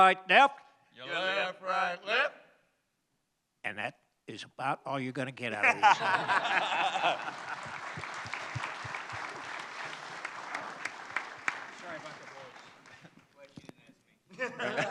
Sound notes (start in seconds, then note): 5.6 laughter; 8.2 applause